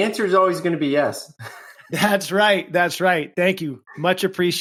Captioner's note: laughs